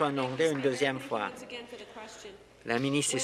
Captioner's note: applause